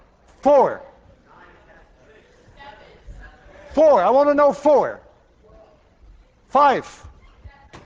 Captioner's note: class calls out different answers